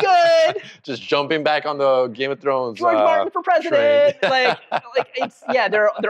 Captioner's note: laughs